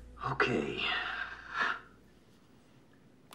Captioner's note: sighing